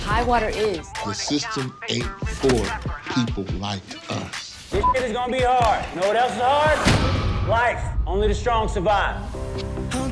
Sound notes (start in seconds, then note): 4.8 beep